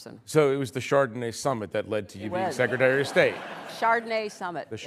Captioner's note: laughter